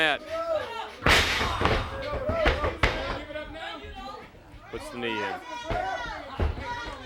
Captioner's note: crowd chatter